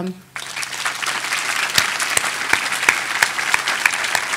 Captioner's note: audience applauding